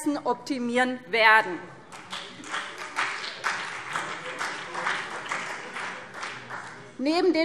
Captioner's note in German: Beifall CDU und BÜNDNIS 90/DIE GRÜNEN